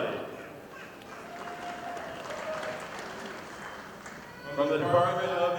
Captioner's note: audience applauding